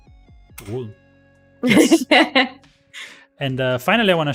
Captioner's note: laughs